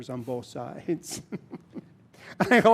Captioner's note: laughter